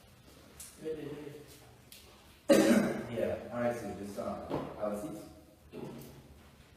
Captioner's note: Doctor clears throat